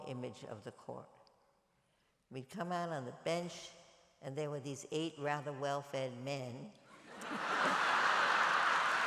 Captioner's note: laughter and applause